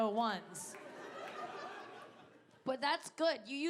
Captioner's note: audience laughing